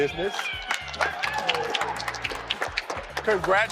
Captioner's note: applauding